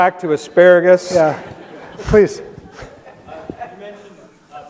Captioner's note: audience laughs